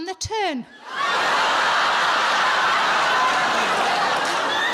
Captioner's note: audience laughing